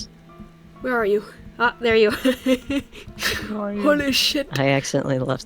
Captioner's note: laughs